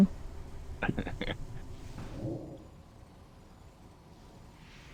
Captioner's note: laughing